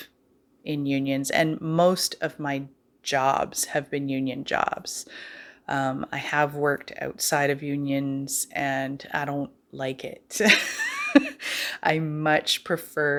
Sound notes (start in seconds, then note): 10.5 laugh